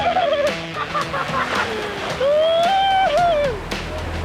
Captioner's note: delighted whooping